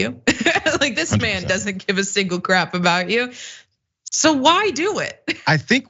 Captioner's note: laugh